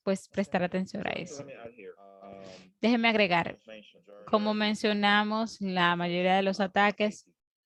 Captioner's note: foreign language spoken, 0:53:02 to 0:54:24